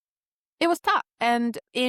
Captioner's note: none